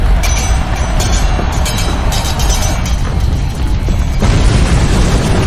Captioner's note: swords clanging; all shouting; explosion booming